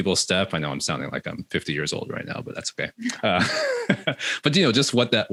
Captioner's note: laughs